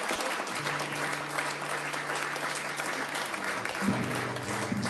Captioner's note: audience applauding